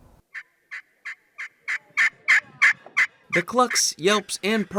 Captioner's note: turkey sounds